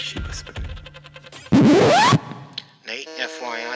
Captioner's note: record scratches